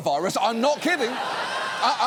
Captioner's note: studio audience laughs